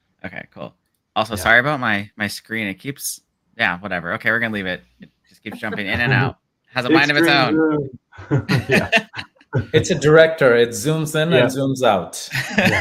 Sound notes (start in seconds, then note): 6.8 laughs